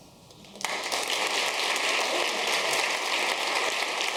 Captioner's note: audience clapping